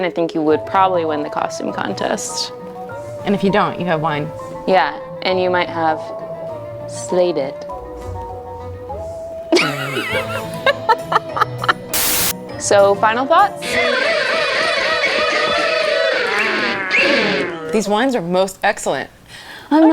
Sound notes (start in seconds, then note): 8.3 spooky music; 9.5 host laughs; 13.7 silly music